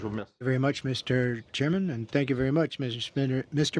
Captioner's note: speaking French